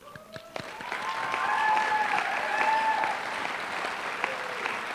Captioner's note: applause